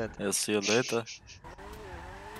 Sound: laughs

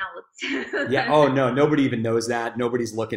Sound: chuckling

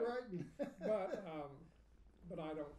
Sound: laughing

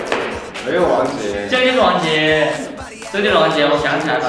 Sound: arguing

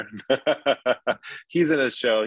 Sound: laughing

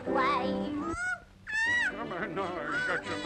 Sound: yell

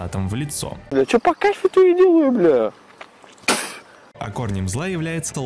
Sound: spits

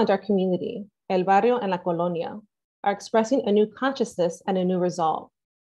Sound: speaking spanish language

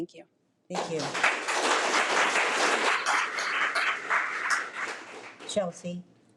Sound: audience applauding

